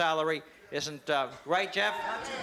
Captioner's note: cheering and applause